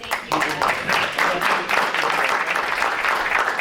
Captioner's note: clapping